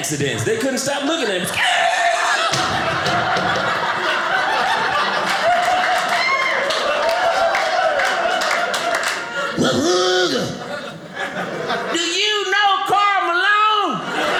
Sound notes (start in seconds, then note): 3.3 audience cheering; 13.9 audience laughing